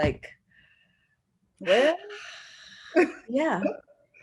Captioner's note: sigh